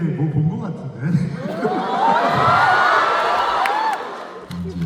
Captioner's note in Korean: 환호